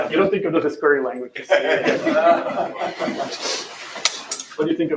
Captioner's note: laughter